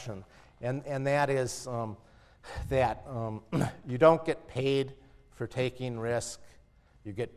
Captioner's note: cough